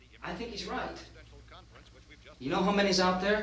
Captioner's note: murmuring